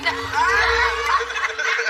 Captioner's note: laughter